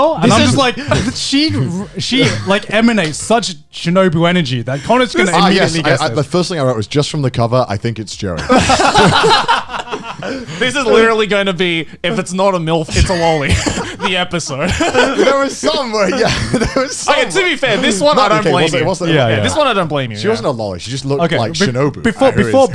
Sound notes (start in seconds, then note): 8.3 all laughing